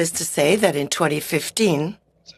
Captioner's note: speaking in french